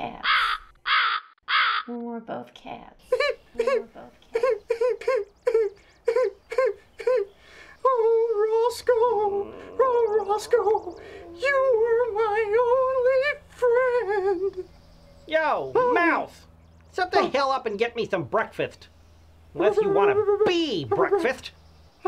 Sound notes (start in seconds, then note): 3.1 mouse crying; 21.8 stuttering